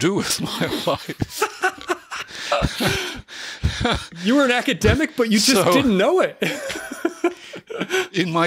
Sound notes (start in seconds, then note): 2.3 chuckle; 6.5 chuckle